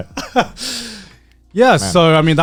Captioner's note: chuckling